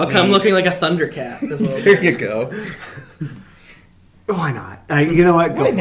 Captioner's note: laughing